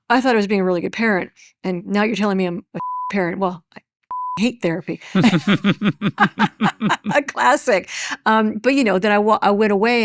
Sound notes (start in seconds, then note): 4.1 beep; 5.2 chuckles